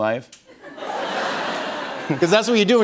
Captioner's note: laughter